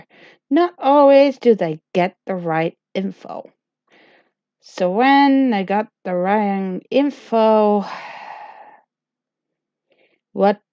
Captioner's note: sigh